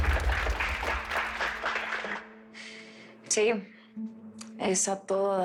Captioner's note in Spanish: Aplausos